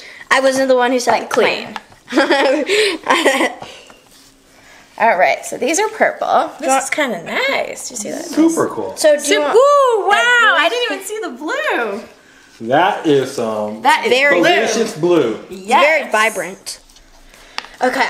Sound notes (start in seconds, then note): 2.1 assistant giggles